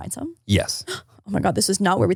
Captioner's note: gasping